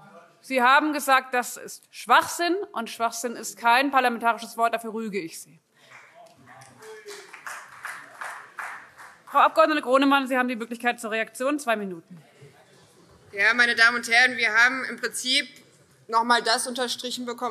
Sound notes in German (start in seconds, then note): 5.8 Beifall CDU, SPD und BÜNDNIS 90/DIE GRÜNEN